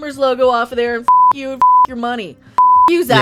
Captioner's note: speaking as Zack